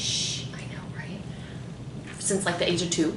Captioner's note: whispers